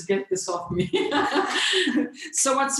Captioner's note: laughs